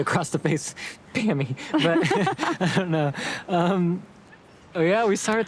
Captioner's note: both laughing